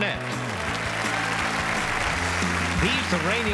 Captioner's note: audience applauds